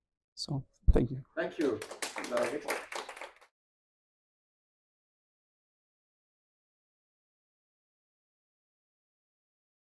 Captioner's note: applause fading